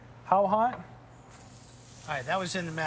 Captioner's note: sizzling